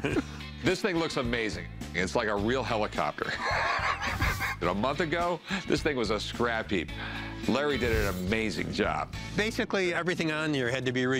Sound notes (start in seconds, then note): 3.2 laughs